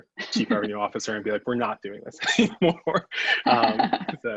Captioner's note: laughs